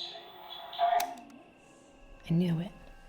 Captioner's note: recorder clicks